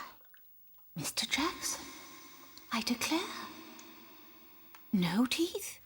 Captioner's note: echoing